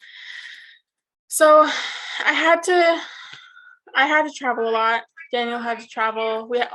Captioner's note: sighs